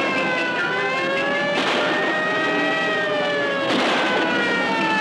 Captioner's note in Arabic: صافرات الإنذار تصرخ; إطلاق نار